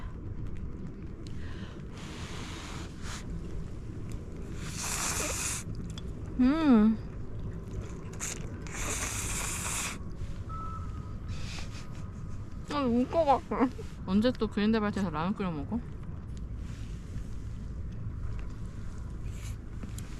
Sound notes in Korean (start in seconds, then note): 4.4 후루룩